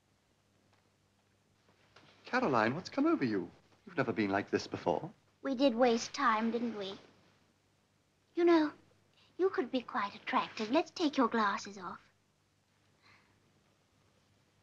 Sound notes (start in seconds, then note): none